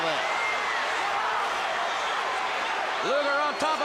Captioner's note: crowd cheering